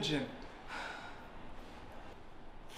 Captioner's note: Imogen sighs